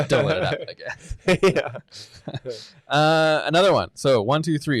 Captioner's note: laughing